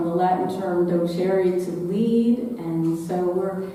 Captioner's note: speaking in foreign language